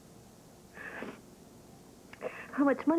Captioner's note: sniff